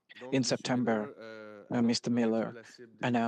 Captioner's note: speaking French